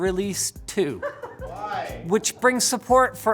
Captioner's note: giggles